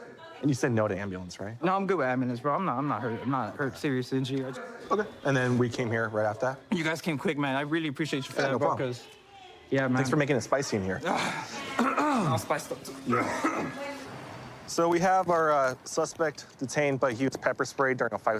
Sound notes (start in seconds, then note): 12.8 coughs; 13.1 clears throat